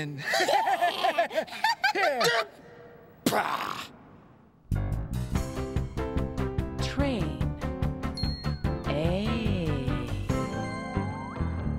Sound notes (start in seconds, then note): 0.2 laughing; 1.7 stammers